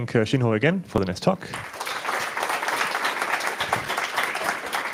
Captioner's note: applause